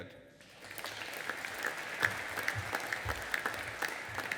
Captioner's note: audience applauding